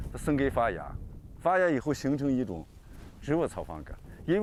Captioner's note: speaking chinese